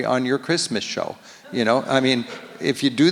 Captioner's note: audience laughs